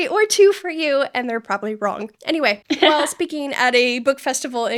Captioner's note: laughing